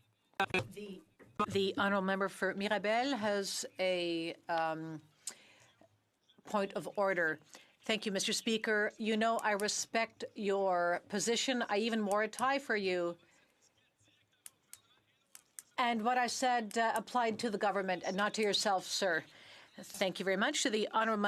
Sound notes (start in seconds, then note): 3.4 speaking French